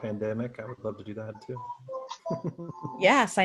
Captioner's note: laughs